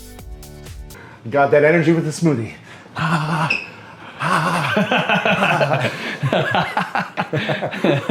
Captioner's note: laughing